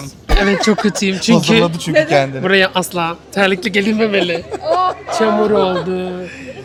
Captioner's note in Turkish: kahkaha